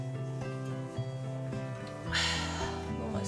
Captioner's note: sigh